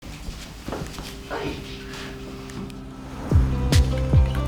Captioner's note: footsteps walking; lively music